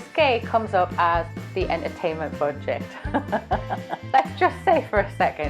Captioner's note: laughs